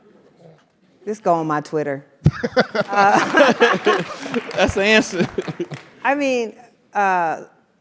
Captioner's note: laugh